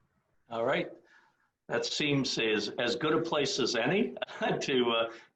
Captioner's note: laughs